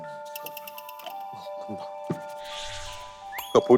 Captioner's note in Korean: 촤라락